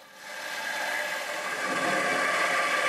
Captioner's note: machine noise